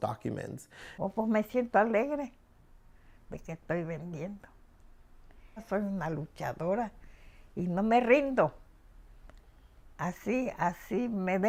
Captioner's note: speaking spanish